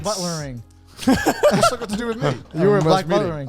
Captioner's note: laughs